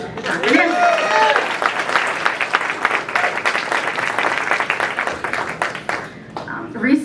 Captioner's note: applause